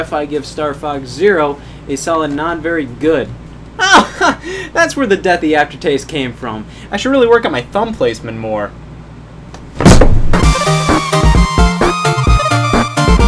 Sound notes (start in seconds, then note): 3.8 laughs; 10.3 upbeat music